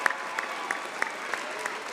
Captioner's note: applause